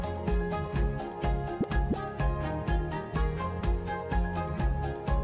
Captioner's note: bubbles popping